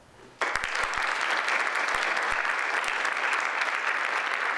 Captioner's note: audience applauds